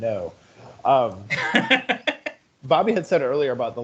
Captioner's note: laughing